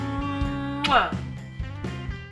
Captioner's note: smacking kiss